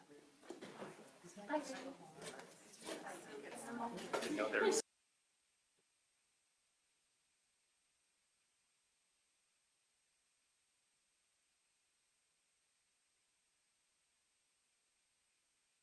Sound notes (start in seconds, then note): 5.5 no audio present